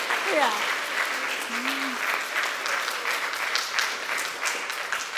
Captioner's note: applause